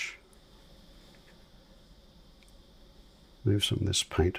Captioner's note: silence